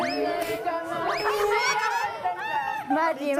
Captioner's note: laughing